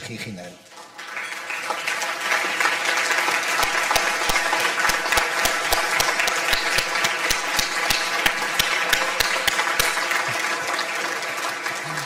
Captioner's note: audience applause